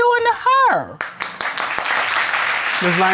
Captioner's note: applause